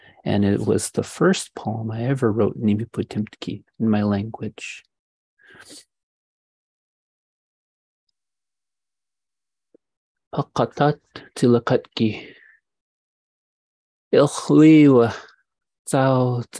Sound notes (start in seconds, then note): 2.6 speaking indigenous language; 10.2 speaking in indigenous language